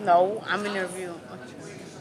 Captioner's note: none